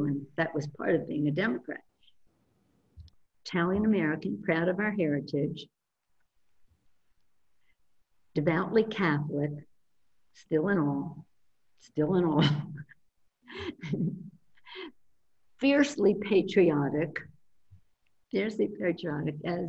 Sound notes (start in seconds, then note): 13.5 laughs